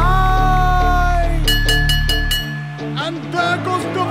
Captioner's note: Bell ringing